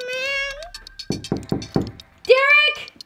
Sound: knocking

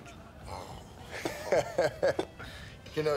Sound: chuckles

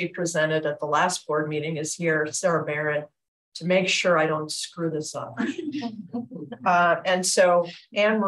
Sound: laughs

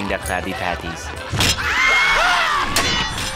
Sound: screaming

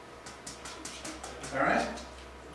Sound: tapping

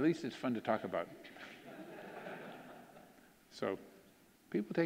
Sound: audience laughing

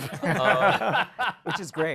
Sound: laughter

